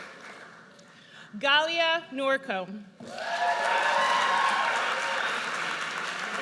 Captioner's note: audience cheers